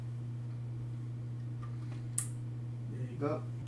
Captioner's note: click